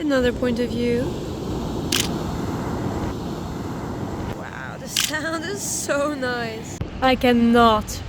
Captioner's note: sound of waves crashing